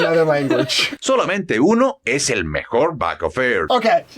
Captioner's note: speaking in Spanish